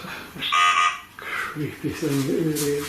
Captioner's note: Voice on Ovilus